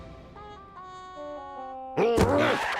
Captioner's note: grunts